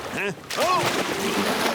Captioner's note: splash